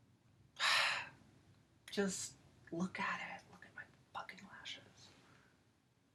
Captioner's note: sigh